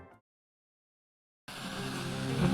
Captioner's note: Static